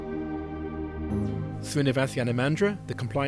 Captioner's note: voiceover